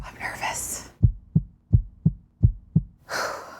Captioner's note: heart beating; deep breath